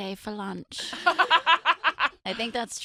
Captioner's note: laughing